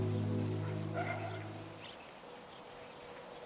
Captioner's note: dog barking